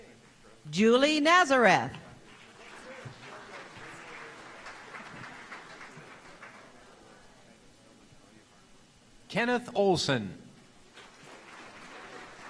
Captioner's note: applause